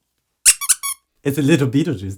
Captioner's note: sqeeky